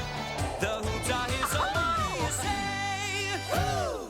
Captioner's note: exclaims